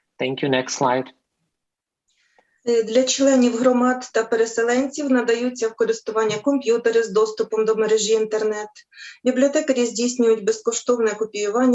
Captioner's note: foreign Language